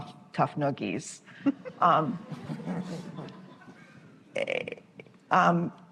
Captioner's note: laughter